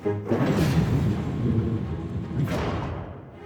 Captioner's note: thunder